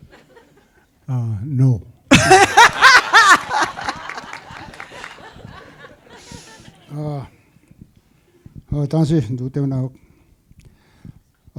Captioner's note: laughter